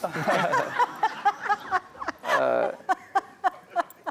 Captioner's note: laughter